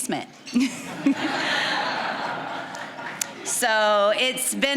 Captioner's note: all laughing